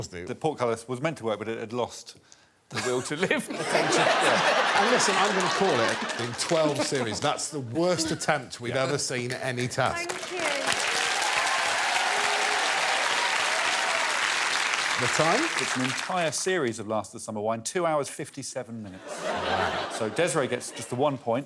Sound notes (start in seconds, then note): 2.7 laughter; 13.5 cheers and applause